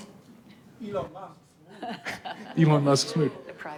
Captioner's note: audience laughing